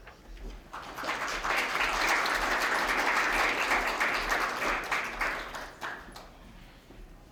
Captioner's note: applause